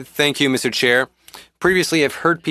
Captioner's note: speaking French